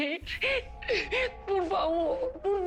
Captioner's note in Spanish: Sollozos